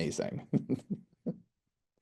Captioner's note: chuckles